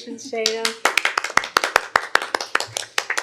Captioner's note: applause